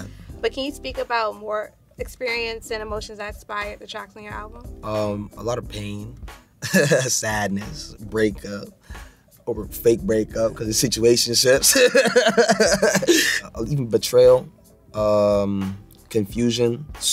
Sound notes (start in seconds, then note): 6.6 chuckles; 11.6 laughs